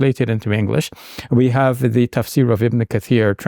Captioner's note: speaking in Arabic